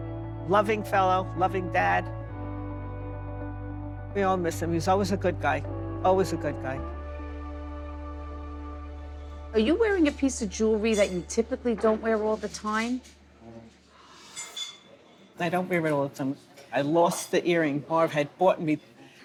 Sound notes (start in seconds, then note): 6.8 gentle music continues; 14.3 dishes clanking